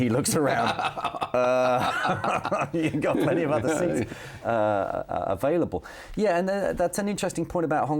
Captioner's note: both laughing